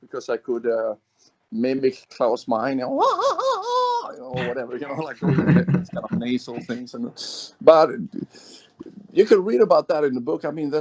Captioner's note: laughs